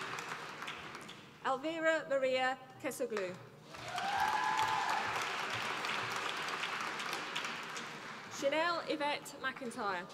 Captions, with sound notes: Elvira Maria Kesoglou, (APPLAUSE) Shanelle Yvette McIntyre,